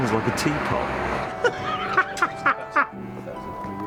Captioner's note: richard laughs